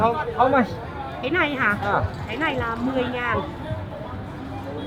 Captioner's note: speaking Vietnamese